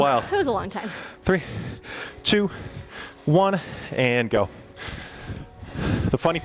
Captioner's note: panting